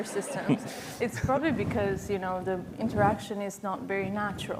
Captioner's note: laughter